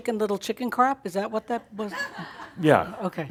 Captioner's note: some chuckles